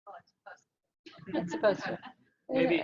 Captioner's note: audience laughing